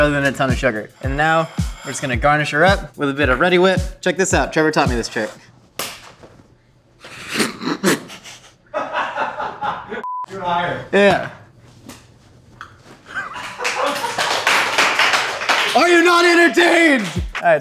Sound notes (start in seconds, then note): 7.1 audience laughing; 7.1 beep; 13.7 audience cheering